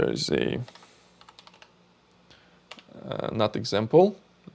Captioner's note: keyboard clicking